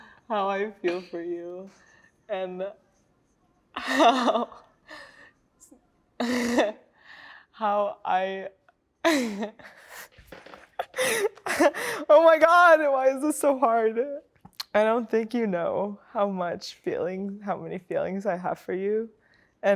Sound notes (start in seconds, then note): 6.4 laughs; 10.8 laughs